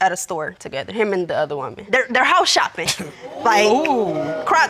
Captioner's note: all exclaiming